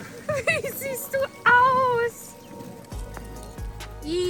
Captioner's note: laughing; in German